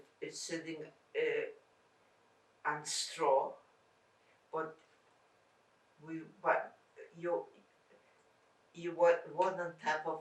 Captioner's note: pauses 6 seconds